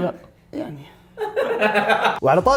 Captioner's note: laughter